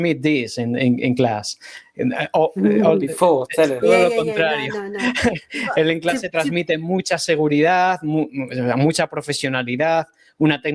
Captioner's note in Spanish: risas